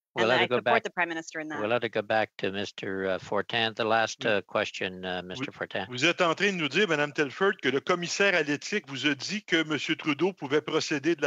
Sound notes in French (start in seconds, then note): 3.2 voix de l'interprète